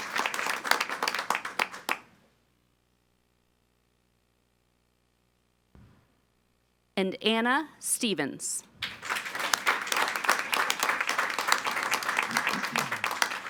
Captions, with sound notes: And Anna Stevens. (all applauding)